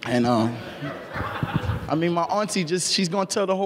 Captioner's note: laughing